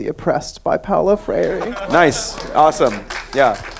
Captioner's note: laughing